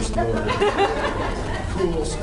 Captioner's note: laughs